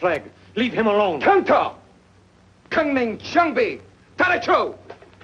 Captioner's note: speaks foreign language